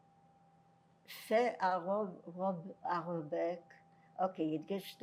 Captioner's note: french